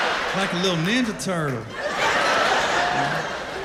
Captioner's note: laughter